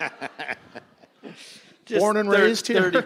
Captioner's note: chuckling